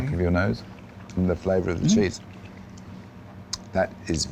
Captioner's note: smacks lips